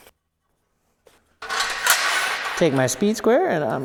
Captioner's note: metal clanging